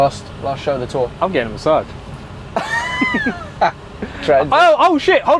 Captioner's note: laughing